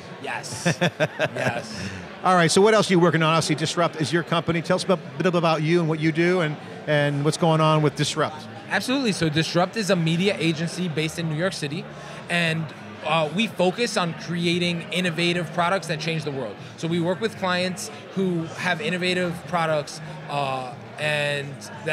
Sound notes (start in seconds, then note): 0.5 interviewer laughs